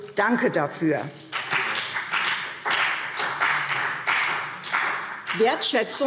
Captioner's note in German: Beifall CDU und vereinzelt BÜNDNIS 90/DIE GRÜNEN